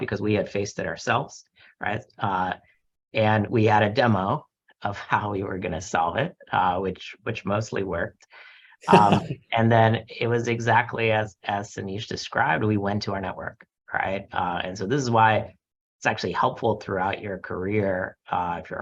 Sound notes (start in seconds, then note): 8.8 chuckles